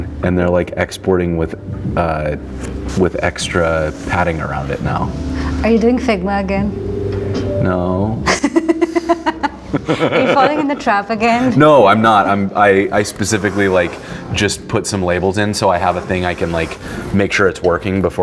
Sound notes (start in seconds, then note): 8.2 laughing